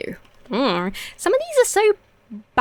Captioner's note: dithers uncertainly